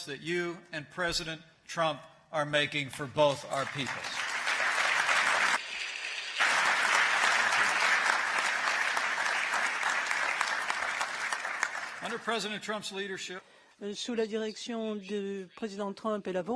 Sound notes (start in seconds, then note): 3.0 applause